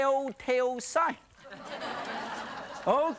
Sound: audience laughs

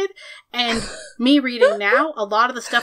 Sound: laughs

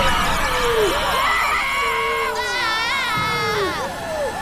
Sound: screaming

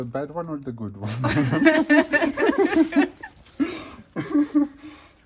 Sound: laughing

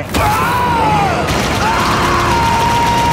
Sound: screaming

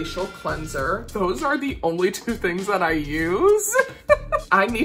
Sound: laughs

